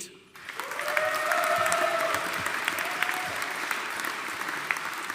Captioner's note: audience applauding